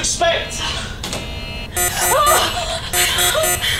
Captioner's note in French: Alarme de la console